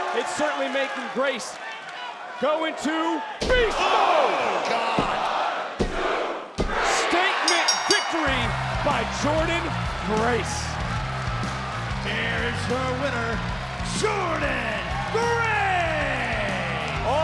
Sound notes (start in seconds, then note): 3.8 body thudding; 4.7 hands thudding; 7.4 bell ringing